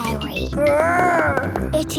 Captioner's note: growls